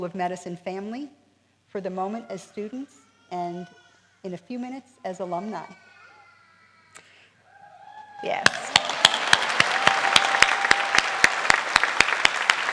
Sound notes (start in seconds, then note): 7.5 cheering; 8.4 applause